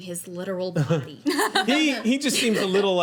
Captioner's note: laughing